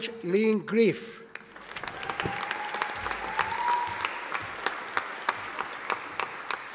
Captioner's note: audience applauding